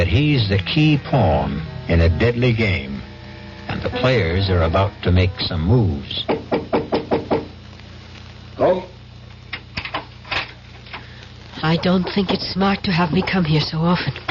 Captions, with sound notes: he's the key pawn in a deadly game, and the players are about to make some moves. [knocking] "Come." "I don't think it's smart to have me come here so often."